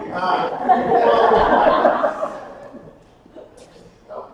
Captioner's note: attendees laughing